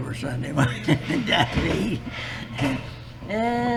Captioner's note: laughs